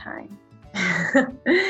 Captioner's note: laughter